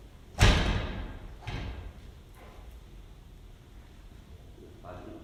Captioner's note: door slams enters